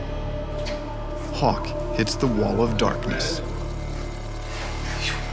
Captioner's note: voiceover